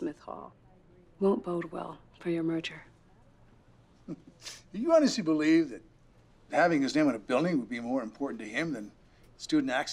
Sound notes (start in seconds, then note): 4.0 laughs